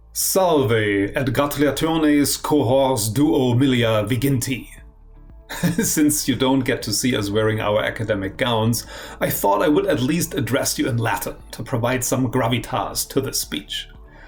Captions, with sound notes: (speaking in Latin) - (laughs) Since you don't get to see us wearing our academic gowns I thought I would at least address you in Latin to provide some gravitas to this speech.